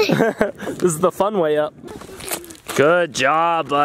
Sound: laughs

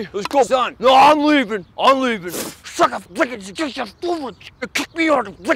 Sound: mumbles furiously

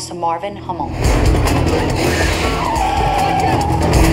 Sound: tires screech, horn blows

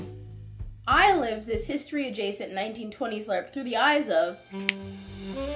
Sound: snaps fingers

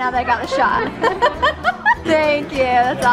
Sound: laughing

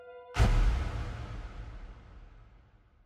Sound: noise thuds

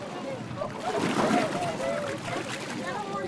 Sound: people chatter excitedly

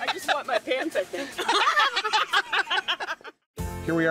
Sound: laughing; both laughing

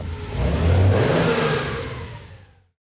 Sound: engine rumbles

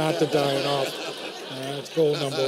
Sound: laughter

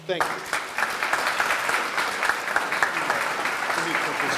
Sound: audience clapping

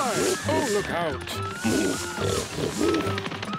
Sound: snorts

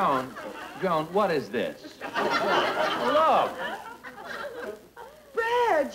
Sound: audience Laughing

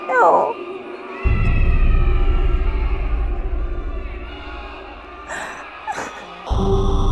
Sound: ghostly cries continue as Jeana weeps

